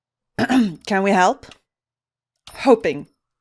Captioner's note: clears throat